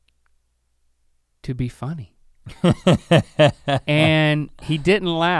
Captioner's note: Rhett chuckles